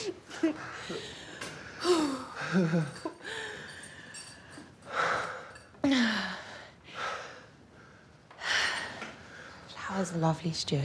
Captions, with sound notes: (sighing) - That was lovely, Stuart.